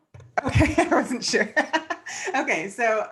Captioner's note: laughs